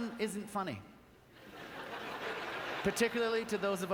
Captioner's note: audience laughter